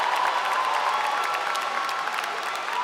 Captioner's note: applause